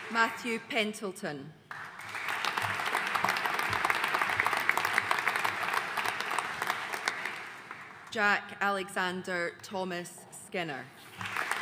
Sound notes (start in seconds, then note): 1.7 audience applauding